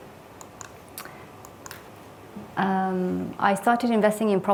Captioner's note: remote clicking